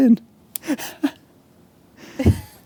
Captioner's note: laughs